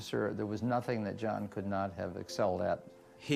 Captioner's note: none